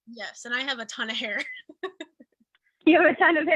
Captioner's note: chuckles